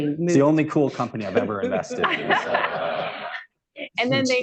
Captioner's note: laughter